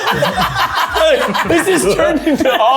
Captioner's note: everyone laughing